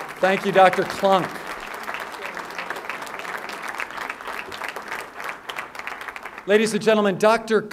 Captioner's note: applause